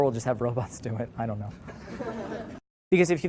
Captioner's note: laughter